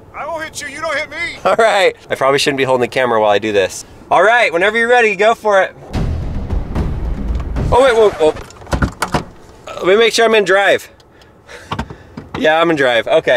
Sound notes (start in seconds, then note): 5.9 intense drumming; 8.6 record scratching